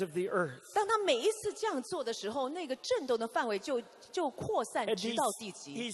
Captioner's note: interpreter speaking in foreign language